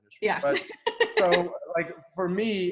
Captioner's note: laughs